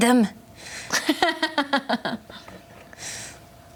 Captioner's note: laughs